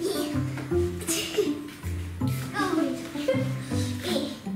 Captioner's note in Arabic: الضحك